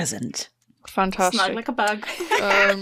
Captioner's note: sighs; laughs